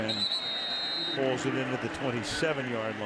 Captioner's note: whistle blows